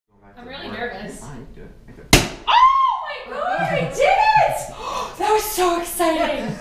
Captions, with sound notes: I'm really nervous. [board breaks] Oh, my god I did it! That was so exciting!